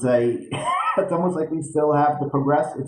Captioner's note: chuckles